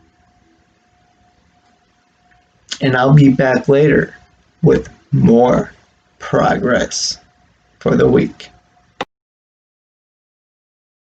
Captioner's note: click